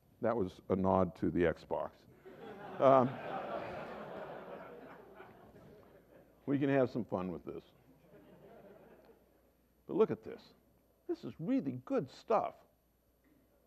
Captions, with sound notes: that was a nod to the Xbox. [Laughter] We can have some fun with this. But look at this. This is really good stuff.